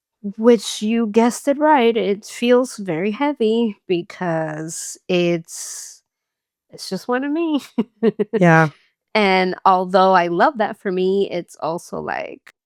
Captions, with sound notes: Which you guessed it right it feels very heavy because it's just one of me. [laughs] And although I love that for me, it's also like